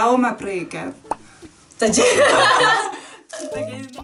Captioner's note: laughs